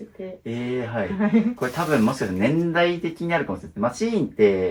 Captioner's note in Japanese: 笑い